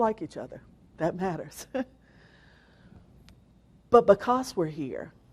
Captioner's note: laughs